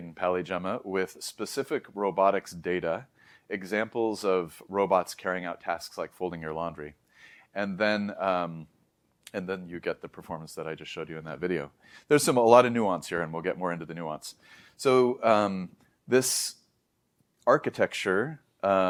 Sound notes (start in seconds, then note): 7.1 inhales; 8.6 lips smack; 14.4 inhales